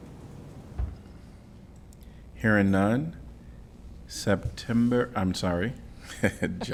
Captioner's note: laughter